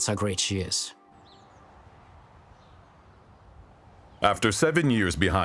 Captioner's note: birds chirping